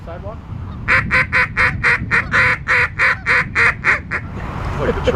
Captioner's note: voiceover; duck whistle